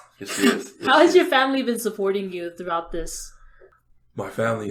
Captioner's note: laughs